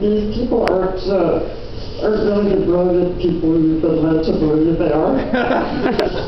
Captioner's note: laughter